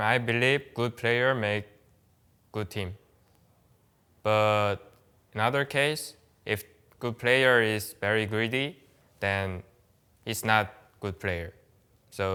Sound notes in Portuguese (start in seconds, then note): none